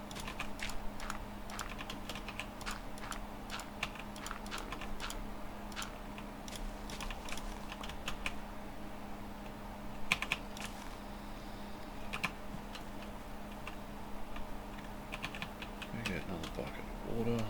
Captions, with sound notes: [typing] Gonna get another bucket of water.